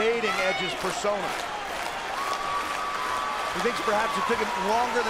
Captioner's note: audience clapping